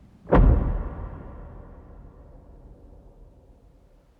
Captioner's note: body thuds